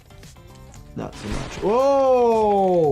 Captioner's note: robot shuffling